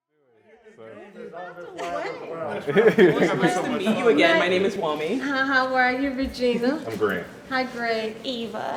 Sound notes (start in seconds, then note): 1.8 excited chattering